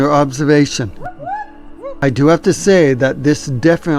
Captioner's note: animal calling